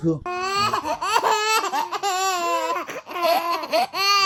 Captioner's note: babies laughing